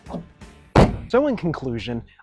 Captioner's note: slam!